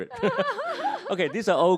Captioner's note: both laugh